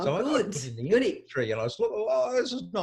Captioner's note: voice muffled